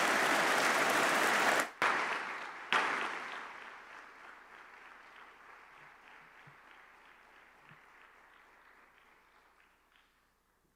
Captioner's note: applause